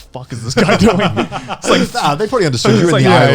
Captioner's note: laughing